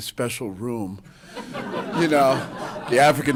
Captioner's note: laughter